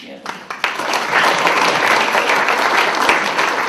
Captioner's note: applause